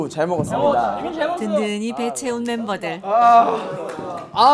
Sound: clap

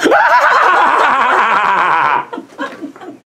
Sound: laughs

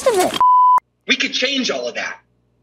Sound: beep

